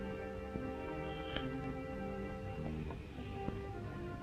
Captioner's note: snoring